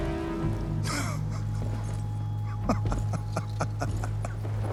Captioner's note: laughs